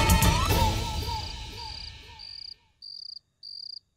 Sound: crickets chirping

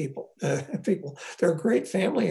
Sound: laughs

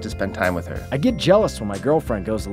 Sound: voiceover

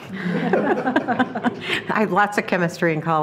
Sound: trustees laughing

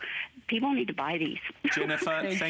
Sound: laughter

